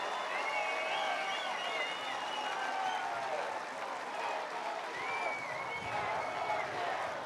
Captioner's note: applause